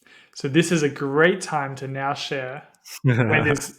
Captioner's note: laughing